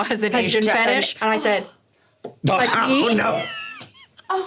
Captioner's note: laughing